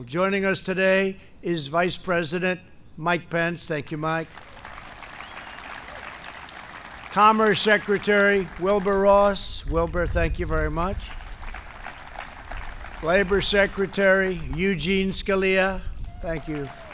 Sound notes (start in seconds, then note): 4.2 applause; 10.6 applause